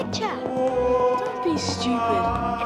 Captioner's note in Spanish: gimiendo fantasmal